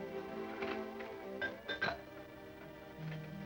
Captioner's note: ice clinks in glass